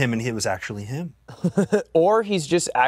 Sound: laughs

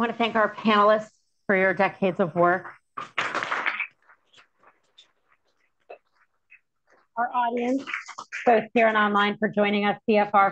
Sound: applause

